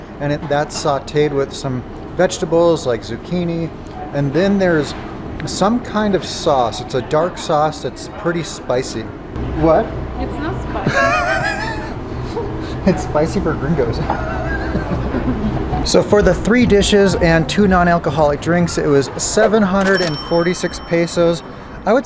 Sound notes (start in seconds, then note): 10.8 laughs; 14.0 laughs